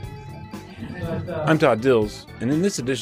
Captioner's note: audience laughs